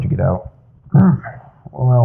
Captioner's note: struggling sounds